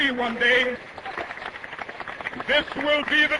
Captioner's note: applause